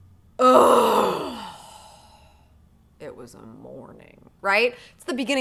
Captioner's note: groans